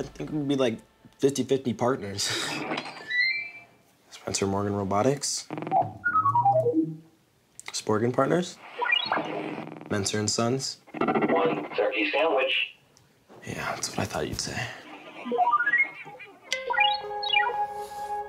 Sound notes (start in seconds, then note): 2.9 Snack Pack beeping; 5.5 Snack Pack beeping; 8.7 Snack Pack beeping; 15.0 Snack Pack beeping